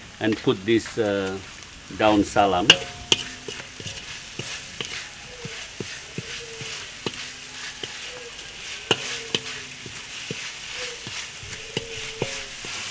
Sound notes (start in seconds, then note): 1.9 speaking Indonesian; 8.5 stir fry sounds